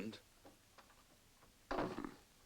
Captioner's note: door closes